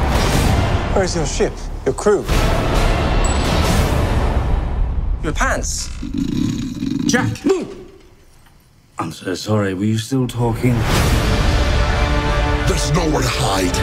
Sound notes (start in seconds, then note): 5.8 snoring